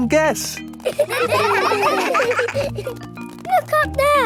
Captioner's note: children laughing